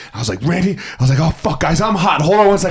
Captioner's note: imitating anger